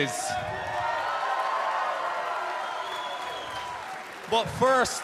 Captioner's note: cheers and applause